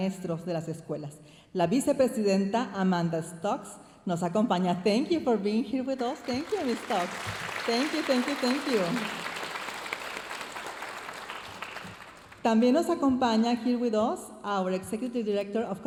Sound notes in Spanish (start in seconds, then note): 4.9 hablando en inglés; 9.2 aplausos de la audiencia; 13.5 hablando en inglés